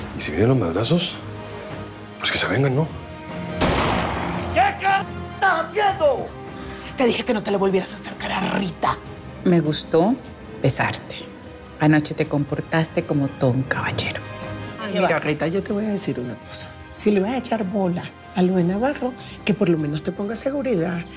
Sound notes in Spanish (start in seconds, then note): 3.6 Disparo